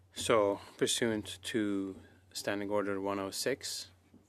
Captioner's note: speaking French